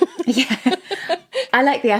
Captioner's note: both laughing